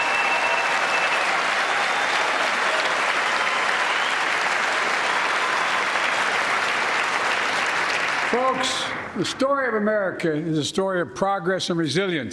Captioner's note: cheers and applause